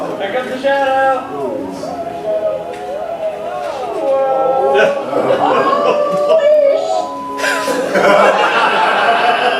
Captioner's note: exclamations